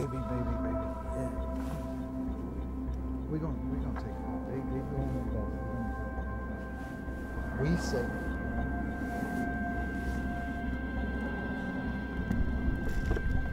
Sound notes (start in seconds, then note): 7.5 murmurs